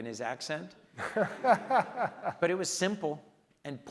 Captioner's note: laughs